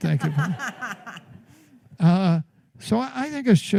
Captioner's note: laughter